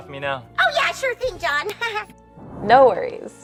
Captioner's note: laughs